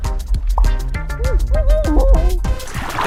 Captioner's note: muffled screaming